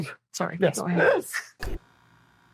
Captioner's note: laughs